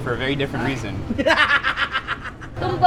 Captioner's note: laughs